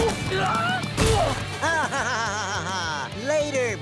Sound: laughing

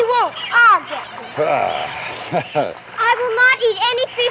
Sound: laughs

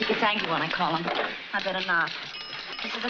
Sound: bell dings

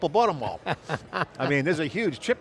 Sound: laughs

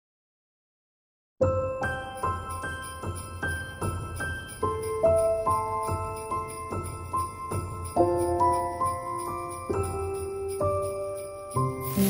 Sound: sleigh bells jingling

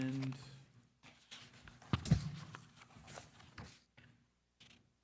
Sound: papers rustling

